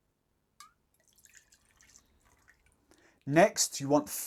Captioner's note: liquid pouring